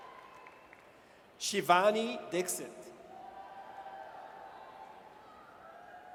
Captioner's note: audience cheers